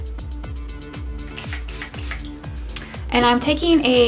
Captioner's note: water spraying